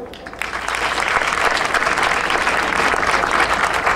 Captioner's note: audience applauding